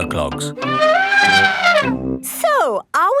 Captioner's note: trumpeting